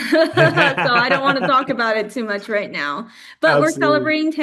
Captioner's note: laughs